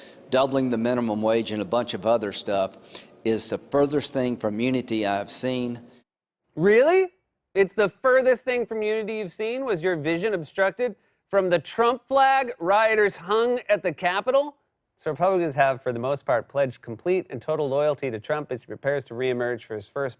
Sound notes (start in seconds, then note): none